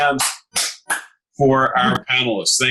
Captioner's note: clapping